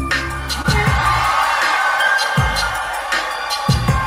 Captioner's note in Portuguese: Aplausos